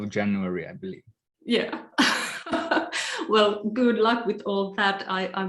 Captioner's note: laughs